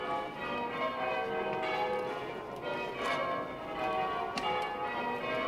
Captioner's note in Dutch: klokken luiden